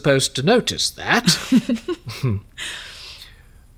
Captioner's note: Sophrosyne laughs